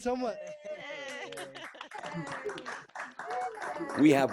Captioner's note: all clapping and cheering